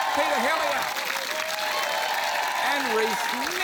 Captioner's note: cheering, applause